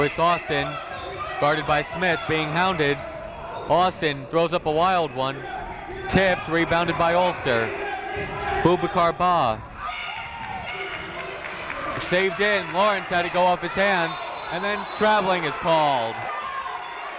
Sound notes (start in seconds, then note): 9.7 cheering